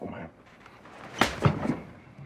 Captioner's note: slap